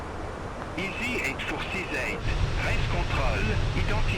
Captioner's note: radio chatter